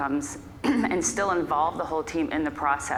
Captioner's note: clears throat